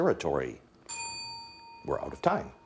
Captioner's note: bell dinging